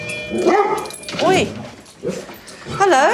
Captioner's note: barking